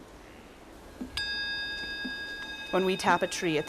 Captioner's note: metal bowl ringing